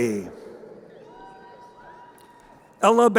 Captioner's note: crowd cheering